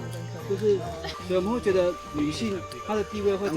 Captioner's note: peeling something